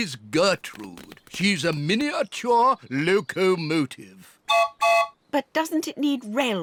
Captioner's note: toots whistle